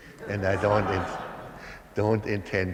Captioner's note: laughter